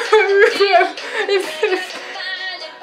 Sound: sobbing and spitting

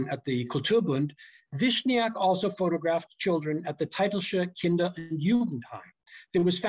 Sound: german

